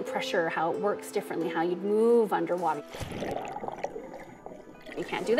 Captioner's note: water splashing